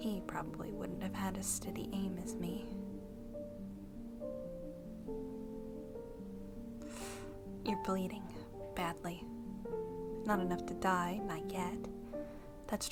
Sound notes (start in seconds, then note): 6.7 hisses through teeth